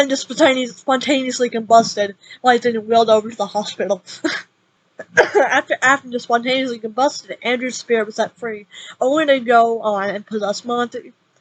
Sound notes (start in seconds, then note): 5.0 cough x4